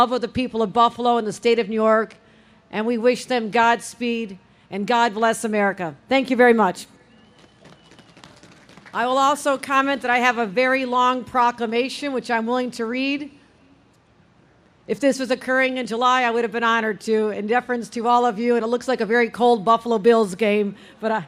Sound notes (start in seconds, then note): 7.3 audience claps